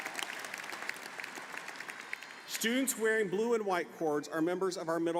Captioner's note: applause